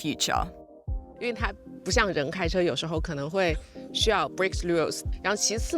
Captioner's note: speaking foreign language